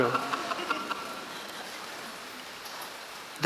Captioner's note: laughing